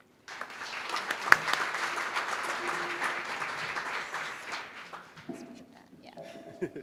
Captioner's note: applause